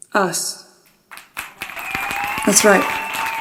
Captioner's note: clapping